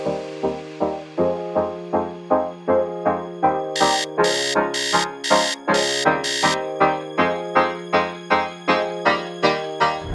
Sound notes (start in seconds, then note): 3.7 alarm ringing